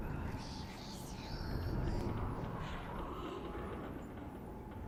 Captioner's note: whispery sounds